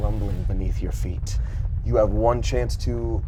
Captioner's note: rumbling resounds